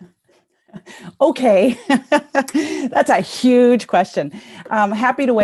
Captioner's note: laughs